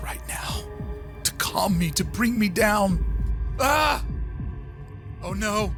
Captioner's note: yelps